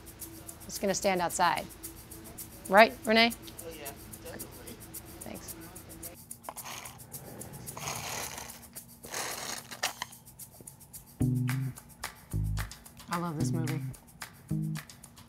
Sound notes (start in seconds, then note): 6.5 loud sucking noises